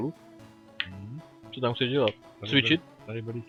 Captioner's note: agreeable hmm